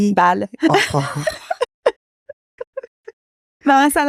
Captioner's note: laughs